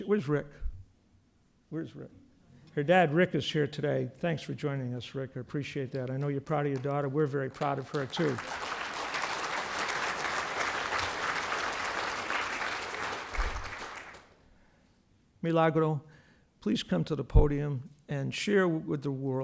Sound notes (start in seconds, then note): 11.0 applause